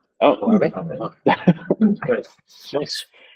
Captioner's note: chuckling